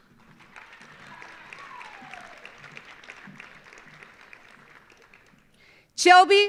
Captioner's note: audience applauding; audience cheering